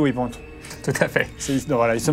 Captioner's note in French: rires